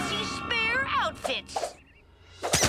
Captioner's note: dramatic crescendo; costumes squeak; air whooshing